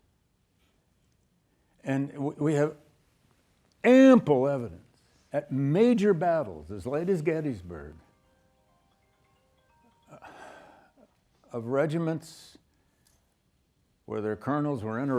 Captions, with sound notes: And we have ample evidence at major battles as late as Gettysburg (cellphone ringing) of regiments where their colonels were interrupted